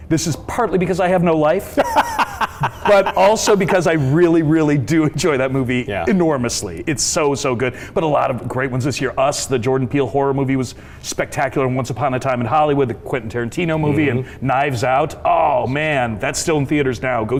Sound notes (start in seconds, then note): 1.8 laughs